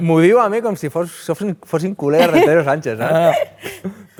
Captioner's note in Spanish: riendo